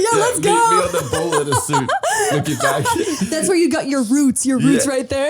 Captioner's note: laughing